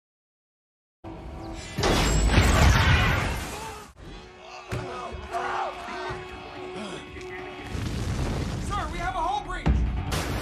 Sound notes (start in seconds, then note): 4.4 men shrieking